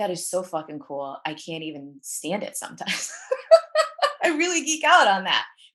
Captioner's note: laughs